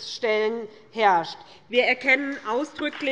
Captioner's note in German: Beifall bei der SPD